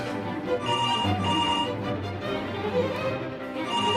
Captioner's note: phone rings